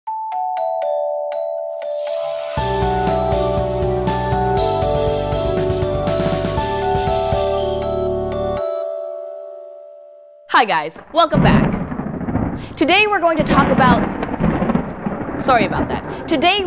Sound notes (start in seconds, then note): 10.9 thunder rumbles; 14.0 rain and thunder sounds